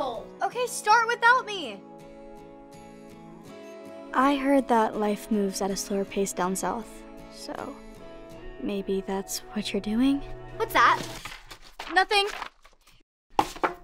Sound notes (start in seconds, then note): none